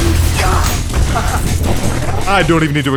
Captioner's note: blows up